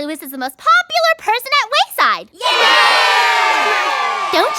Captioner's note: cheer